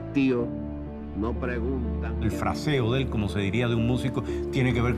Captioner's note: speaking Spanish